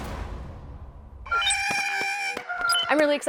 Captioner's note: Porg sounds